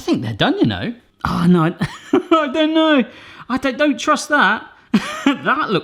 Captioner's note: laughing